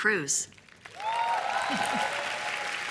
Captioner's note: chuckles; cheers and applause